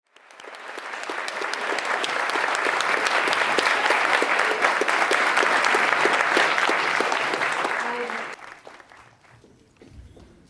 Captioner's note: applause